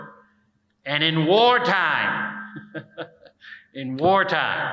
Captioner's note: chuckles